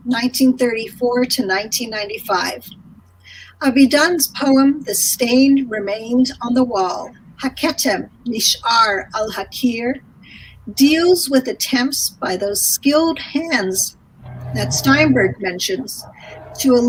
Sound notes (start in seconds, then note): 7.7 speaking in foreign language